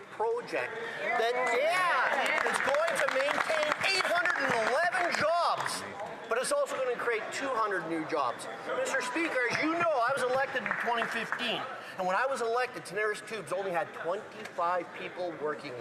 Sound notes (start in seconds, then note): 6.6 cheering and Applause